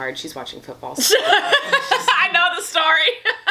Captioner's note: laughs